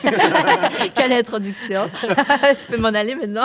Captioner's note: laughs